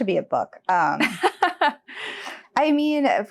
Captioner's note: chuckles